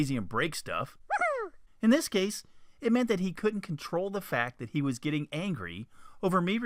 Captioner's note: kid's voice; man's voice